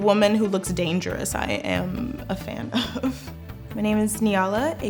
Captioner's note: giggles